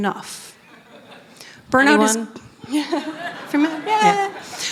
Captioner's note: laughter